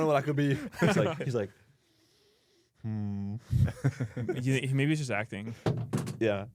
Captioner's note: laughs; laughs